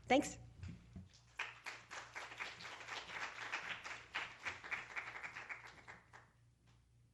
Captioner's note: applause